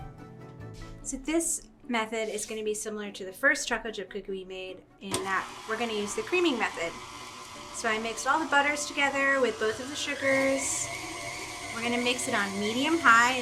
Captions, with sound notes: So this method is gonna be similar to the first chocolate chip cookie we made in that we're gonna use the creaming method. (mixer whirring) So I mixed all the butters together with both of the sugars. We're gonna mix it on medium-high